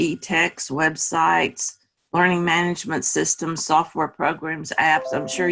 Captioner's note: bell sound